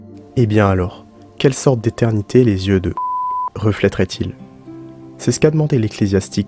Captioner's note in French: bip sonore